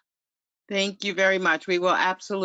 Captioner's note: voiceover